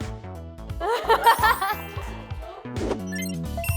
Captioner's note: just laughs..★